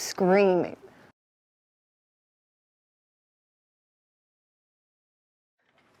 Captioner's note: screams silently